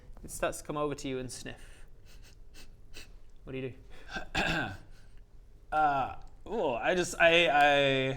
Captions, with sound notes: it starts to come over to you and sniff *sniff sniff sniff* What d'you do? uh ooh I just, I...I......